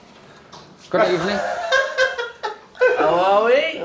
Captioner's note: Marwan laughs